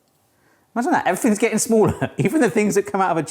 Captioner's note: chuckles